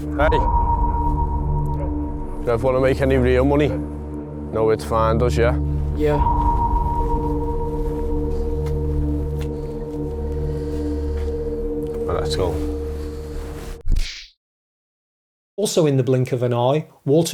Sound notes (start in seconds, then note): 13.9 kung Fu Sound